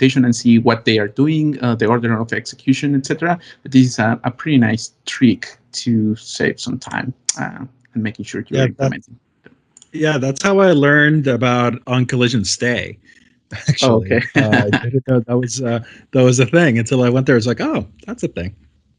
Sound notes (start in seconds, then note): 13.5 laughs